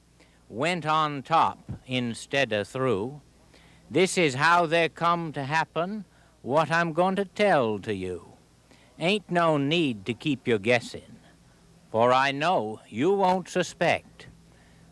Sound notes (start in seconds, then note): none